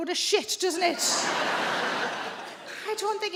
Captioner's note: audience laughing